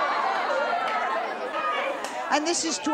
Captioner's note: audience outrage